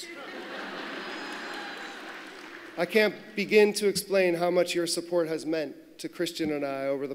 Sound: laughter

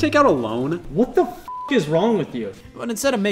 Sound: beep

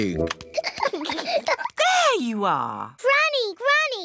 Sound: peppa and george giggling

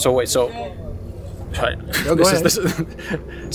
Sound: stammering

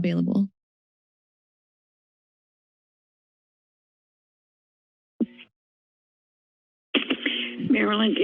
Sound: silence

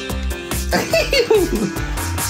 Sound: giggles

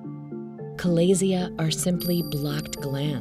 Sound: chime sounding

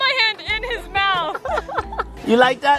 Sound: laughs

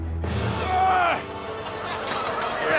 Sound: Munya grunts

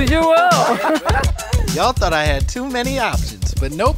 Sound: laugh

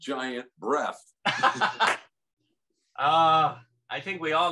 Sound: laughs

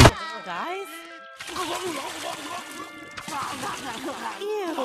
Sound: gurgling

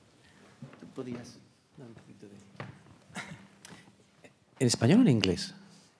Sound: speaking faintly; speaking in Spanish

